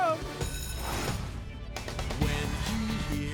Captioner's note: alarm Ringing